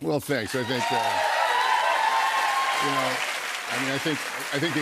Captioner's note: cheers and applause